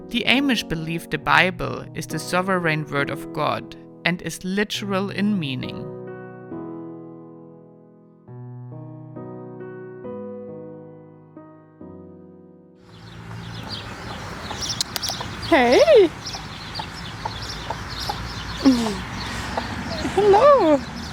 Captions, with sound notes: The Amish believed the Bible is the sovereign word of God and is literal in meaning. (birds chirping) - Hey. Hello.